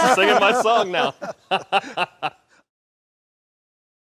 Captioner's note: laughs; laughter